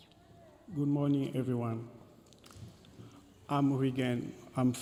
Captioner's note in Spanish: hablando en inglés